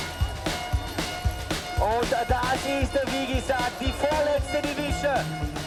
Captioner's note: upbeat music; speaks german